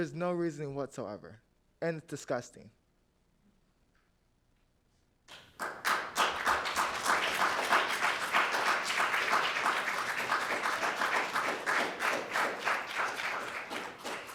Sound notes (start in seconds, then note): 5.3 audience applauding